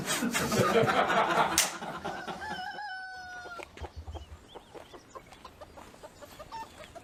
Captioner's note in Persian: خنده